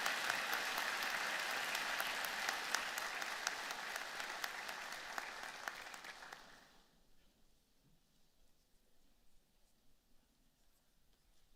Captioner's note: applause